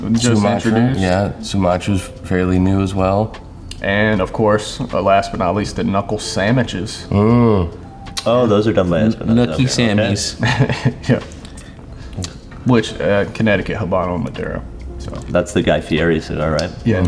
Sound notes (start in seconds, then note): 10.2 laughs